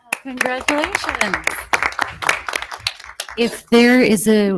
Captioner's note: audience applauding